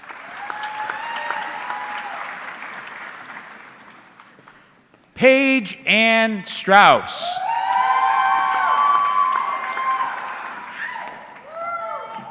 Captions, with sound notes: (audience cheering) Paige Ann Strauss. (audience cheering)